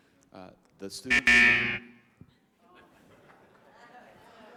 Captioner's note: buzzer buzzing